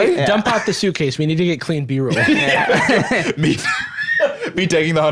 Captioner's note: laugh